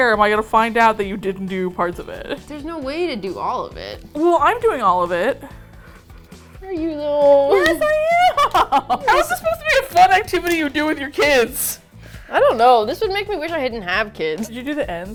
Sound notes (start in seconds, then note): 5.8 skeptically; 7.4 both laugh; 7.4 indignantly